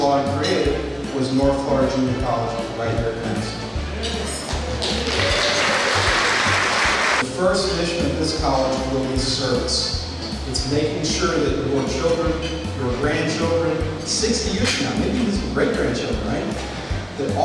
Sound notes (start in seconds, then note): 4.6 audience applauds